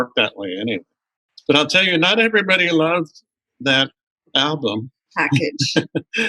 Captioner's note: laughter